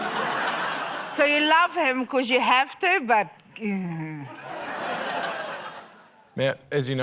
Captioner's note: laughter; laughter